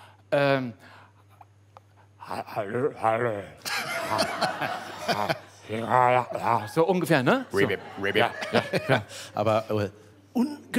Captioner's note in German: mit tiefer Stimme